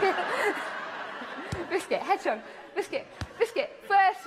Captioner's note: laughter